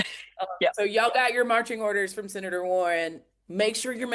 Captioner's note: laughter